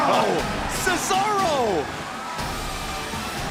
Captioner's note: crowd cheering